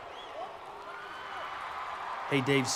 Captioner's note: crowd cheering